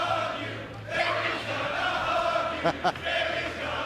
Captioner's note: fans chanting; laughter